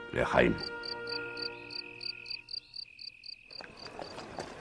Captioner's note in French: Chants des grillons